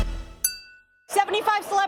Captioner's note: glasses clinking